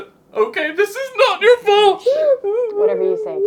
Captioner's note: sobbing